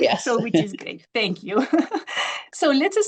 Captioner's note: chuckles